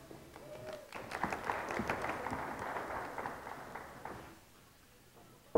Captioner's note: audience clapping